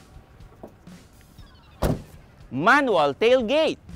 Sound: tailgate closes

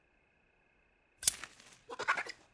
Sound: chirp

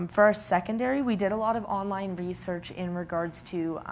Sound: none

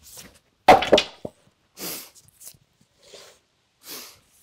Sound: ax strikes

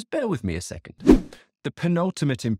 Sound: swooping transition

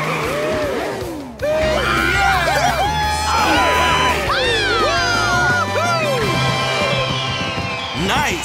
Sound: cheering

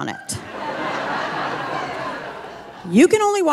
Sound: audience laughing

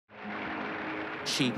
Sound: audience applauding

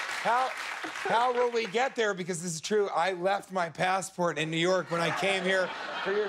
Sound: cheers and applause

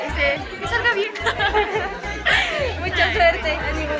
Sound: laughter

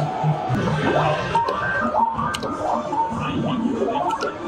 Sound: game beeping

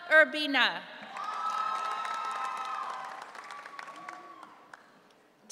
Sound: audience cheering

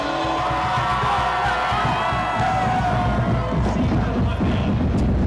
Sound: crowd cheering

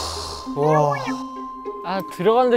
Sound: but sighing out front

